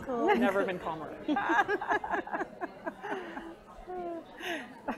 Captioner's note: laugh